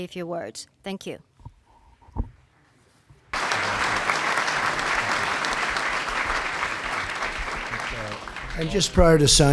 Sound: applause

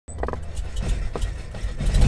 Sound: prop aeroplane starting up

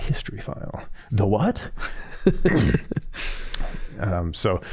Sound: chuckling

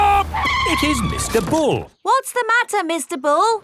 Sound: tires screeching

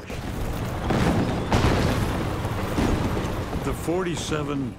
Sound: cannon shots exploding

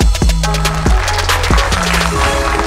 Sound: applause

